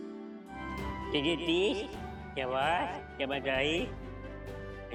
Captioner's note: Golu talking gibberish